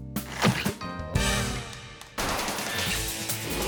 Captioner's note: transition whooshes; plunger squelches; upbeat rock music